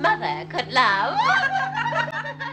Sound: laughing

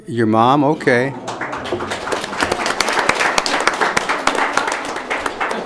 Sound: audience applauding

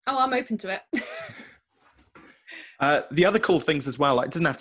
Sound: laughs

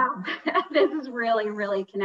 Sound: laughing

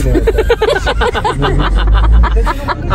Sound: laughter

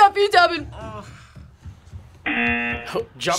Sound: buzzer

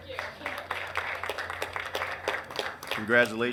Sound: applauding

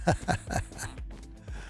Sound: laughs

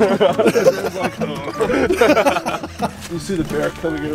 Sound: laughs

